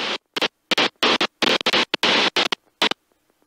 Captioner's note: radio static